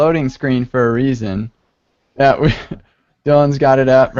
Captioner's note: laughter